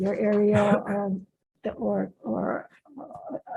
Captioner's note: coughing